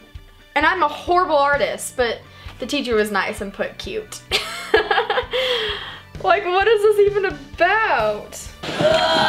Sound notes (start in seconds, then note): 4.4 laughs